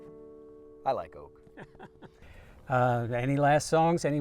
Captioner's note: chuckles